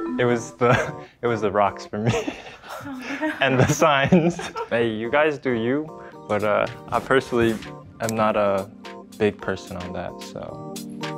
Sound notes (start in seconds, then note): 2.0 laugh; 10.9 chill music continues